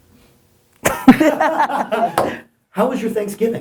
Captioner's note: Steve and Gary laugh